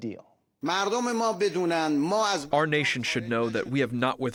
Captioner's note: through translator